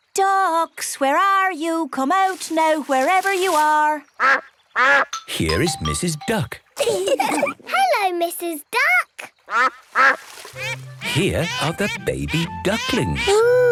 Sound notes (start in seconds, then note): 4.2 quacks; 6.8 all laugh; 10.5 quacks